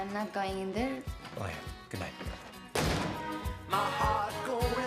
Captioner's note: he slams door